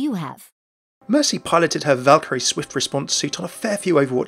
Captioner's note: voiceover